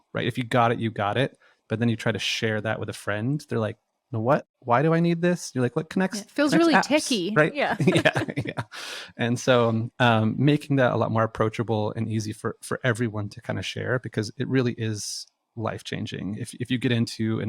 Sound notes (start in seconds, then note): 7.7 both laughing